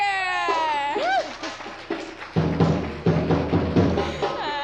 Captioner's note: audience applause; drumming begins